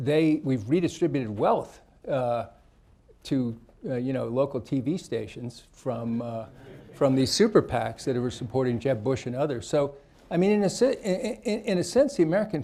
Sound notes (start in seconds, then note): 6.6 laughter